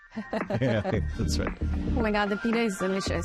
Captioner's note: chuckles